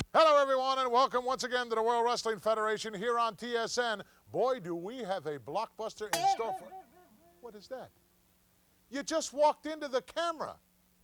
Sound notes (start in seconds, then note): 6.1 spring boings